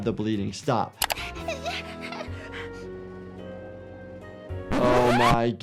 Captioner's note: Flaky crying